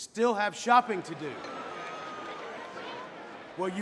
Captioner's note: all clamoring